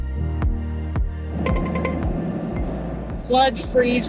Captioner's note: lively music; alarm rings